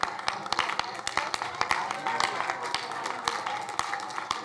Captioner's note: crowd applauding